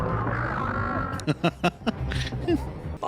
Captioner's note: laughing